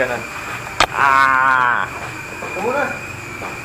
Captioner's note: frustrated grunt